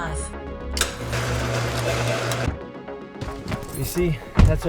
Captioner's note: clicks; mechanical whirring